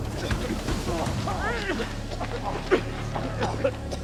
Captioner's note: all coughing